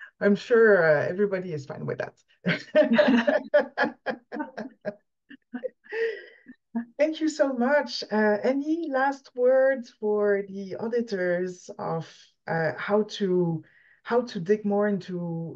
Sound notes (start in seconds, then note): 2.5 laughs